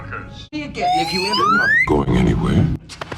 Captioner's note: slide whistle